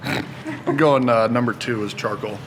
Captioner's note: laughs